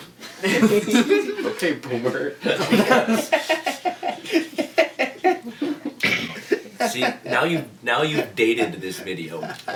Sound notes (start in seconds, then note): 2.5 starts laughing